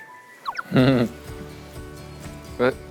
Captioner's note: an embarrassed laugh